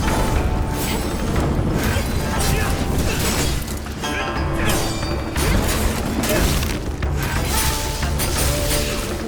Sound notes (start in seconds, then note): 2.1 both grunting